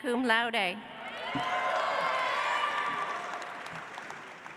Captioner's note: audience applauds